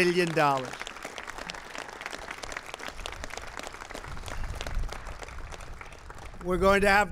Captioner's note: applause